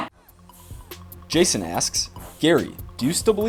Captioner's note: voiceover